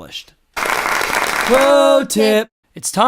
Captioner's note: applause